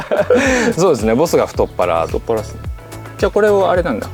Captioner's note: laughs